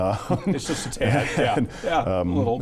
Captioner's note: all laughing